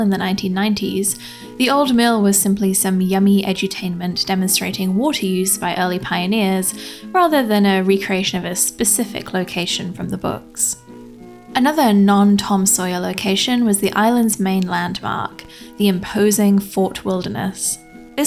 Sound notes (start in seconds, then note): none